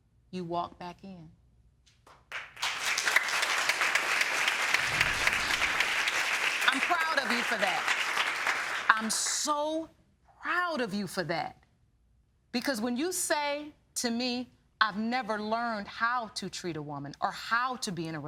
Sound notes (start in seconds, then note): 3.7 applauding